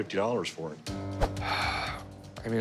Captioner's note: sighs